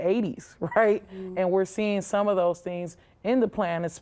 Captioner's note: chuckles